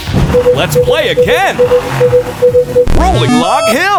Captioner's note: beeping